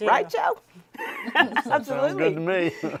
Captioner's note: panelists laughing